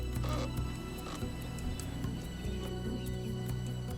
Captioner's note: board creaks; gentle curious music